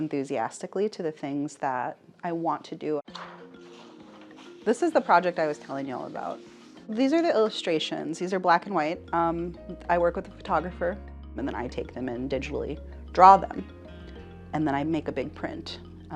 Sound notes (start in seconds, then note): 3.1 paper rustling; 3.7 cheerful curious music; 14.5 cheerful curious music